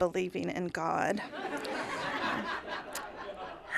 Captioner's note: laughter